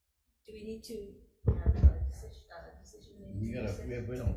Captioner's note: mic bumps